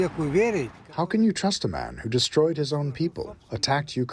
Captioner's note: through translator